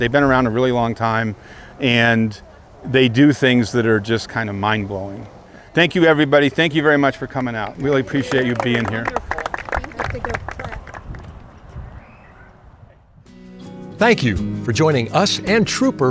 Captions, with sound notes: They've been around a really long time and they do things that are just kind of mind-blowing. Thank you everybody. Thank you very much for coming out. Really appreciate you being here. [Clapping] Tom - Thank you for joining us and Trooper